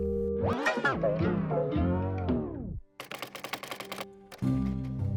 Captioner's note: tape rewinds